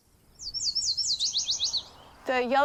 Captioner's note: bird singing